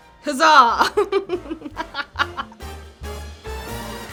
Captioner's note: laughs; jaunty music